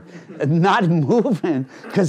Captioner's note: laughing